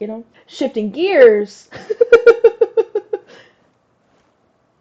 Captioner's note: laughs